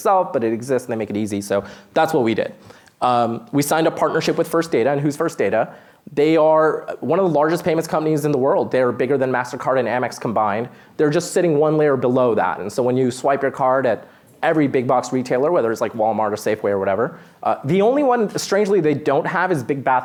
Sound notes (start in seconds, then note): none